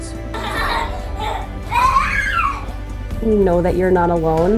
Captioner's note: child laughing